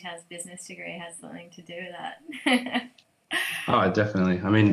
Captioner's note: chuckles